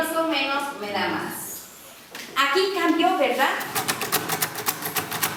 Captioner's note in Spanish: tecleo máquina